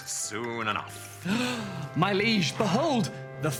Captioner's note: gasps